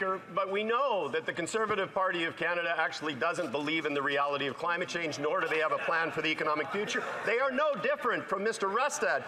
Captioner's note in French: voix de l'interprète